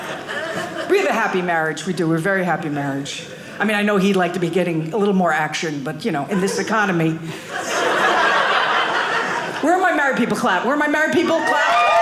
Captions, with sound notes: We have a happy marriage. We do. We have a very happy marriage. I mean, I know he'd like to be getting a little more action. But in this economy. (audience laughing) Where are my married people clap? Where am I married people clap?